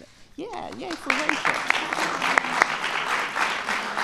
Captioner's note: applause